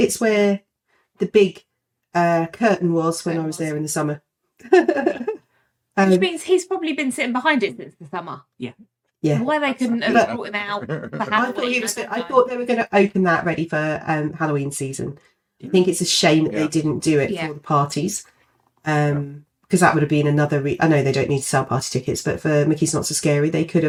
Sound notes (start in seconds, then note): 4.7 laughing